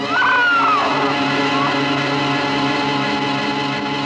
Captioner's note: scream